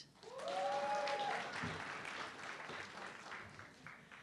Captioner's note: audience clapping